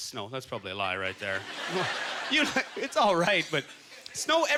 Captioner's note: audience laughter